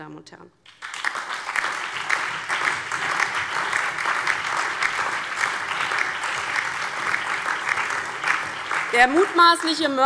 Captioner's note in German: Beifall DIE LINKE, CDU, BÜNDNIS 90/DIE GRÜNEN, SPD und Freie Demokraten